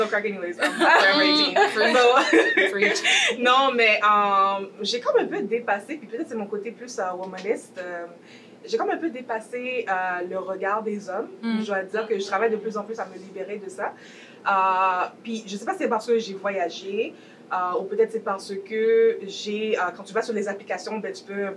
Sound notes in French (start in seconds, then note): 0.6 rires